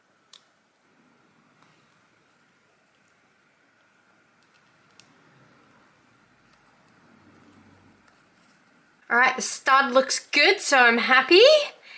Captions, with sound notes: *slight tapping sound when stud contacts screw* Alright the stud looks good, so I'm happy!